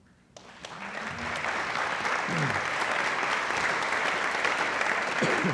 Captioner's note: audience applauding